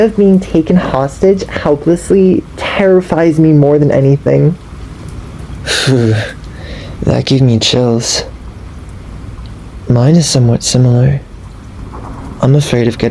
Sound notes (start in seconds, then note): 6.4 audible shudder